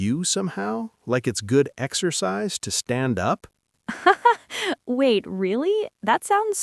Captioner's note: laughs